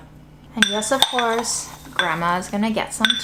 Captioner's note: jar clinking